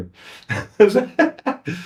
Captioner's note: laughing